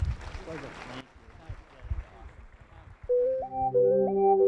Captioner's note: audience applauding; bright music